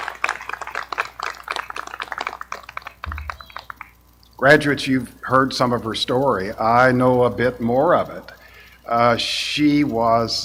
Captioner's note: appaluse